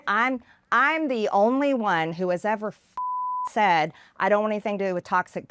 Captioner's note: beep